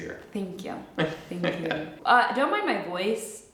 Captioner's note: chuckles